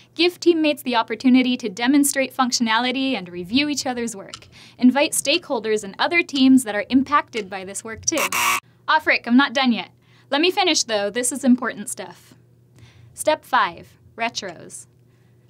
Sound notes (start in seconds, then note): 8.1 buzzer